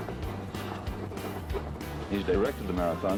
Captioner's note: man on TV